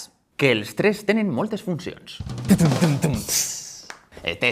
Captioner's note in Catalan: imita tambors